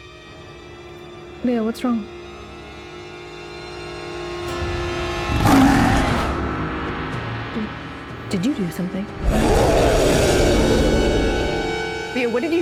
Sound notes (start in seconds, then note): 4.5 Leo growls; 9.1 Leo growls